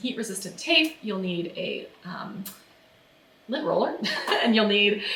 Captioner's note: laughs